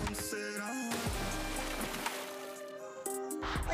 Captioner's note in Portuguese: água espirrando